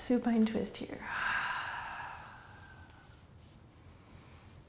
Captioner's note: exhaling